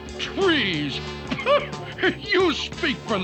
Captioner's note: once-ler scoffs